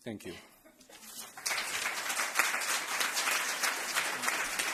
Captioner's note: applause